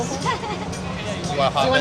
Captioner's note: chatter